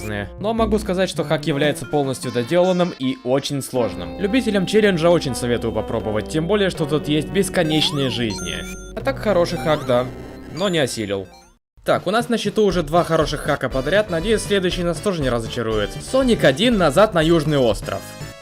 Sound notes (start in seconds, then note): none